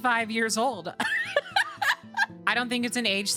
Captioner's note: laughter